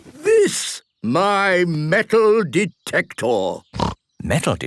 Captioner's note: snorting